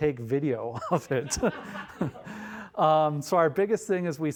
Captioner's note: all laughing